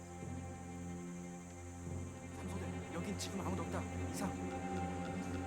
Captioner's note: speaking Korean